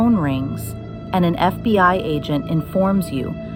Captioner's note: none